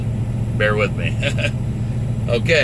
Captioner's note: laughs